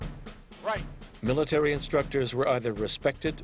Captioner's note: voiceover